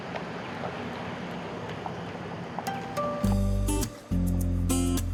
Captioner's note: nature sounds